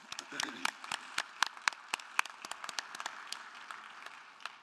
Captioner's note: audience applauding